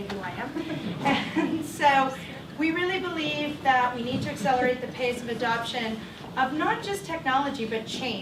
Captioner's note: chuckle